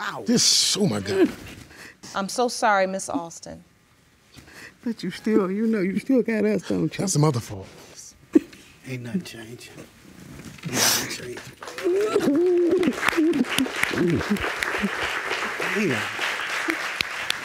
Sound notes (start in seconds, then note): 10.9 sniffles and sobs; 11.0 audience applauds